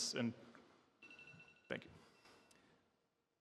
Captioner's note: alarm beeps